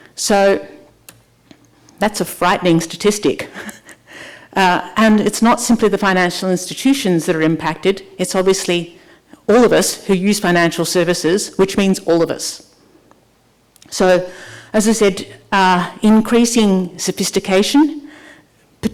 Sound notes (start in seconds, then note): 3.8 laughs